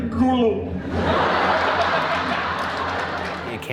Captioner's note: audience laughing